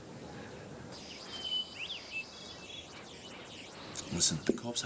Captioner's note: birds chirping